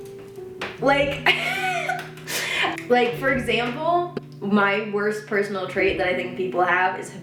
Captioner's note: chuckles